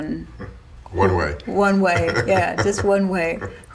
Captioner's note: laughter